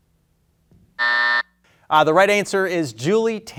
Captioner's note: buzzer buzzing